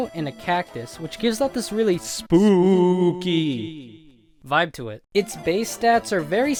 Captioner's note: scary Spooky voice